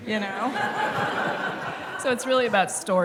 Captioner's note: laughter